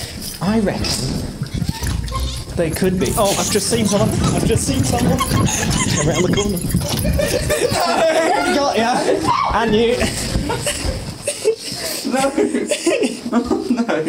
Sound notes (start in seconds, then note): 2.9 giggling; 10.5 shouting and giggling